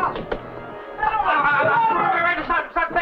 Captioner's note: General Tostada speaking in Spanish; stutters